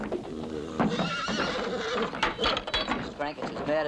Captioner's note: angry whickering